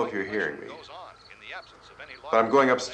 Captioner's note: radio continues